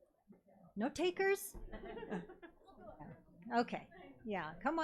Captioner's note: audience chuckles